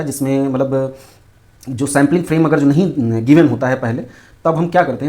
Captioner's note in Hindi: नाक से की जाने वाली आवाज़